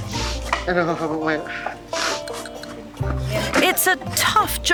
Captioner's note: light upbeat music; in foreign language